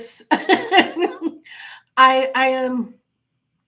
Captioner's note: laughing